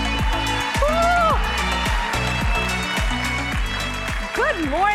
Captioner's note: upbeat music; audience cheering; exclaiming